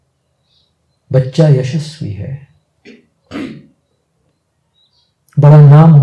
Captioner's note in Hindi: गला साफ़ करने की आवाज़